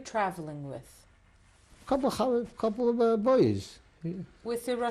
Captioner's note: non-english